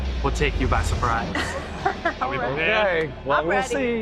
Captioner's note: chuckling